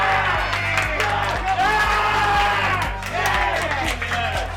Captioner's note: cheers; crowd cheers